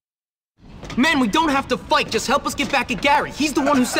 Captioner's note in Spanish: Edgar riendose y diciendo wow wow wow!